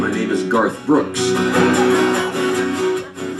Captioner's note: audience laughter